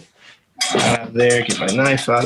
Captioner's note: bowl clanking